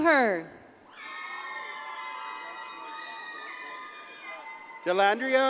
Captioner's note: audience cheers and applauds